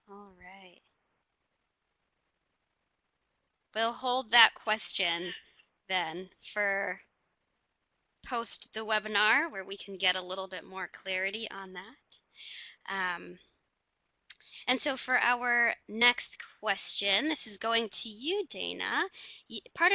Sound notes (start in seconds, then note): none